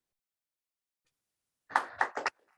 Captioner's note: applause